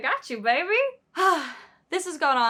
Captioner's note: sigh